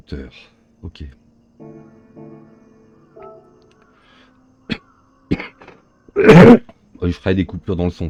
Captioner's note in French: raclement de gorge; toux